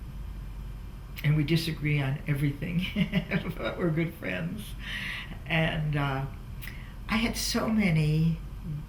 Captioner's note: laughs